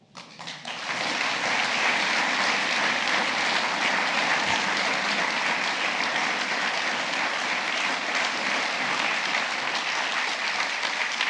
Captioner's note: applause